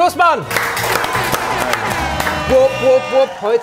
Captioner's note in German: Tröten, Jubel, Applaus